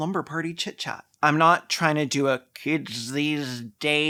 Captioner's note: oldtimie voice